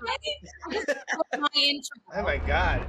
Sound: laughter

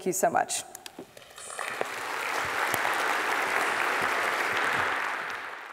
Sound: audience clapping

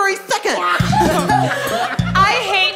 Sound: laughing

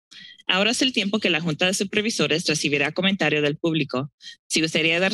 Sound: speaking in Spanish

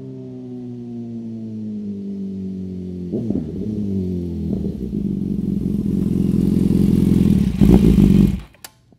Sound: s1000r exhaust note

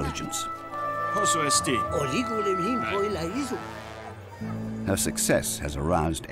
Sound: men speaking in Greek

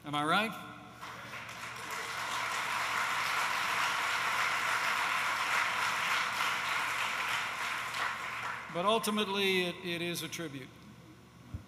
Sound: applause

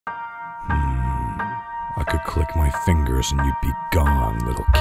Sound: Thanos groaning

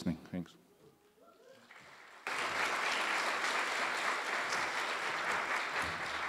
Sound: audience applause

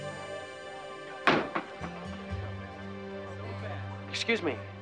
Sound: door banging

